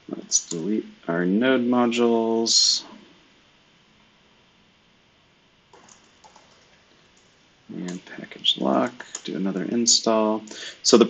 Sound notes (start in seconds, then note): 5.7 computer keyboard clicking